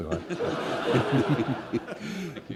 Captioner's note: laughter